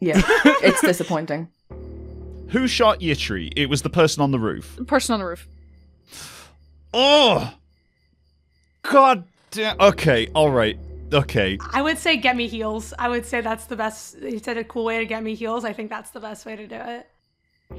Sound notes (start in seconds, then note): 7.0 grunts